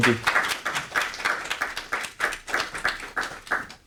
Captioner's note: audience applauding